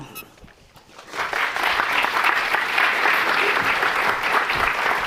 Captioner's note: audience applauds